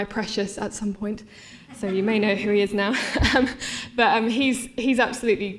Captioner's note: laughter